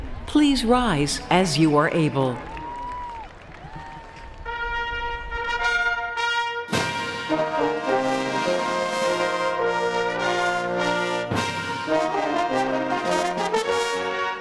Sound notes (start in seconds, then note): 2.5 applause